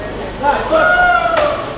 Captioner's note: crowd chattering; speaking in foreign language; crowd cheering